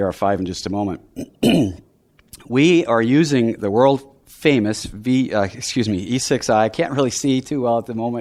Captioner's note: clearing throat